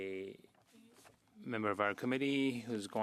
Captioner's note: speaking French